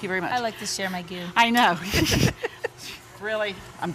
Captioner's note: laughs